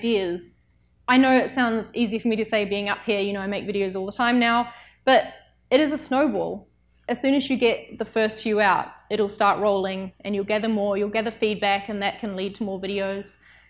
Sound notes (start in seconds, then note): none